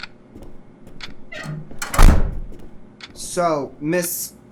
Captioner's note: door opens; door slams shut